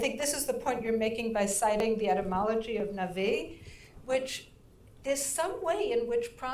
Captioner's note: speaking in foreign language